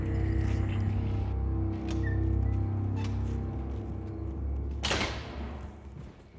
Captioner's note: door opens